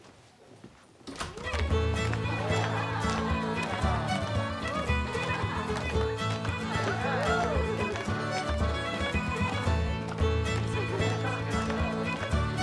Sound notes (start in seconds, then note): 1.6 lively dance music; 1.6 students cheering